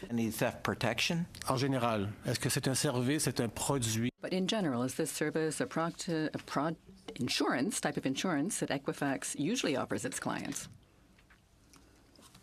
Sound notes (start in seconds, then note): 6.8 speaking in French